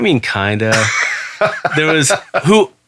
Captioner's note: laughing